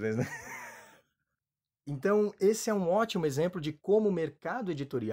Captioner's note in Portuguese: risos